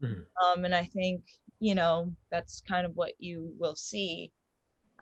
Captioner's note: none